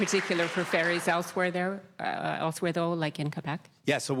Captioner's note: applause